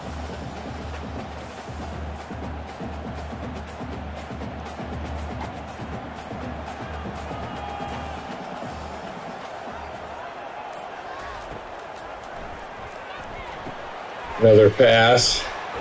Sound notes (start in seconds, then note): 11.5 crowd cheering